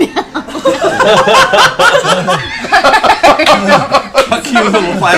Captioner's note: laughs